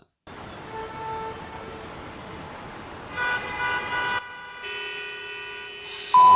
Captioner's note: car noise, honk